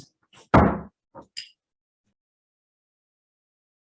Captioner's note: gavel bangs